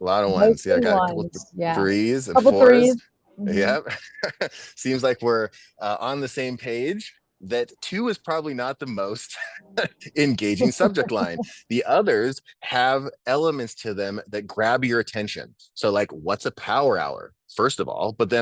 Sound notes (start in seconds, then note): 3.4 laughs; 7.5 laughs